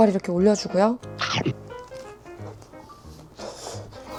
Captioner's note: Crunch